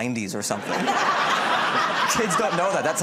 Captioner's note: laughter